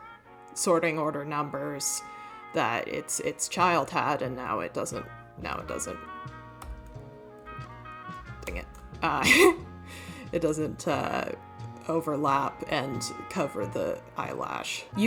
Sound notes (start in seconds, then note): 9.2 nervous wheeze laugh